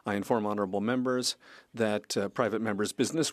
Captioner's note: speaking French